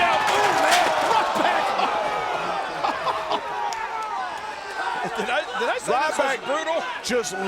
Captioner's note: laugh